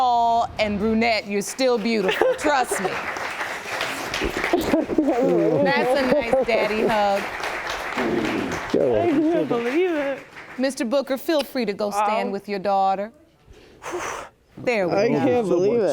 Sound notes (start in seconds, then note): 3.3 audience applauding